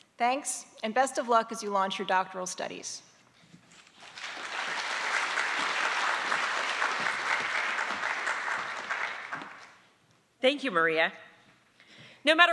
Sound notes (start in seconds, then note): 3.9 attendees applauding